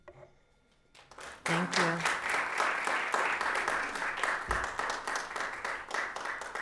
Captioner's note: audience applauds